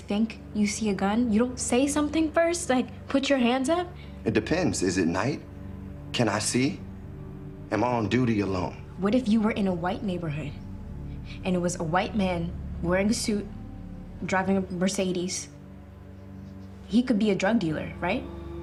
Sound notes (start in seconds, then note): none